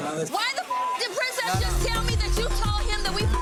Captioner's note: beep; beep